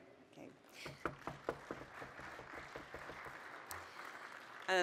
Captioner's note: applause